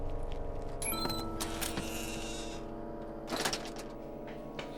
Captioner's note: door creaks